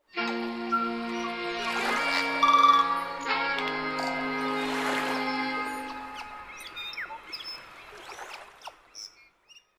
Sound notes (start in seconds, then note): 0.1 light rhythmic music; 5.2 birds squawking